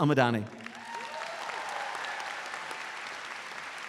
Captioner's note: audience applauds